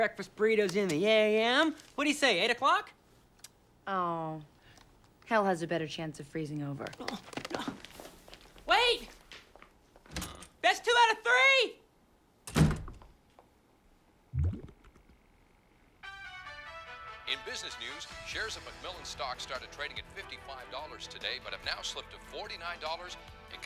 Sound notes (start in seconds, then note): 12.4 door closes